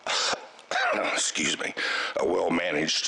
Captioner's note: coughs